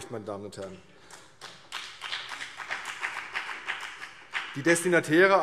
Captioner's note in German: Beifall CDU und BÜNDNIS 90/DIE GRÜNEN